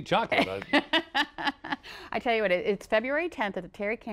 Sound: laughter

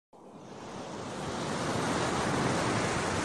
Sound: SFX: ocean waves

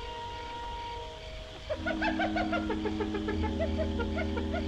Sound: hyena Chattering

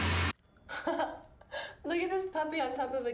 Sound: laughing

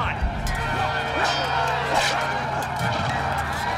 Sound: metal clanging

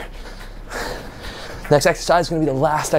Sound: exhales deeply

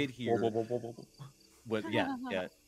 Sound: whirs

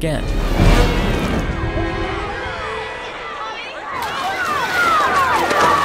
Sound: suspenseful music; people chattering

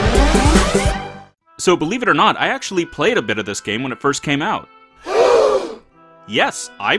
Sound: gasp!!!

